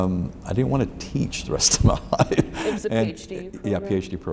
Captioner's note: laughs